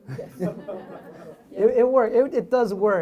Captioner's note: audience laughs